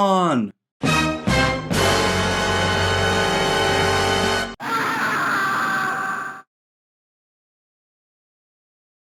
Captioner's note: Scream from ‘Countdown’ plays